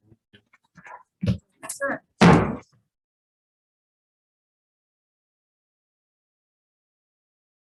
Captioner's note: gavel banging